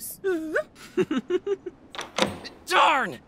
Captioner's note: giggling